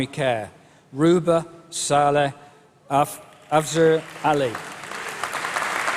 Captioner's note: applause